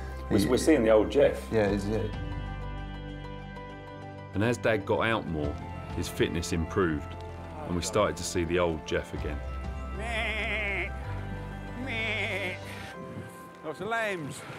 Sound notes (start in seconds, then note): 10.0 he bleats